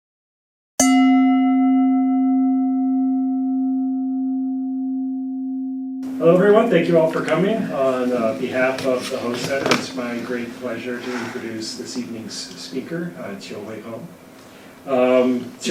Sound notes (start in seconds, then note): 0.8 bell dings